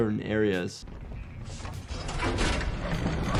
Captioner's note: character shuffling; lever shuffling; character thudding